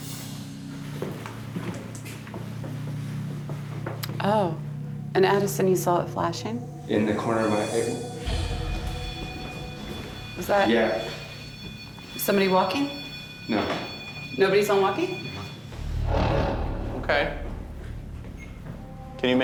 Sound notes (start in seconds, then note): 0.1 ominous music; 7.8 beeping